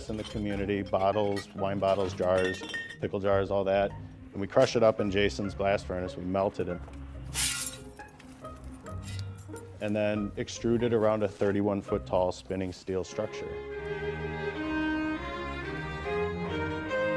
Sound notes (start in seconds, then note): 7.3 glass rattling; 14.4 gentle music